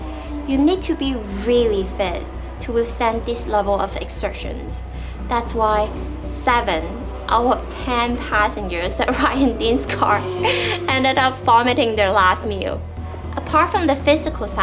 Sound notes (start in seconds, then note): 10.3 chuckles